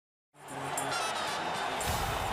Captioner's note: cheering